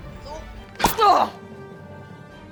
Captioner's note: groaning